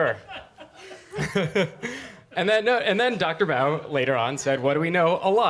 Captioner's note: laughs